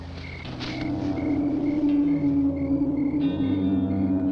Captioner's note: creature groaning